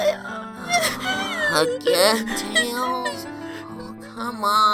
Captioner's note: sighs